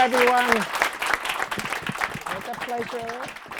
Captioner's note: applause